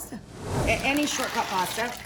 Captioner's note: whooshing